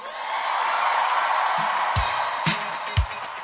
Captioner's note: audience clapping and cheering; upbeat music